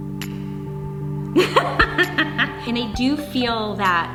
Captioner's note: laughing